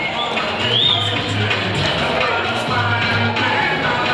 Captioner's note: audience applauding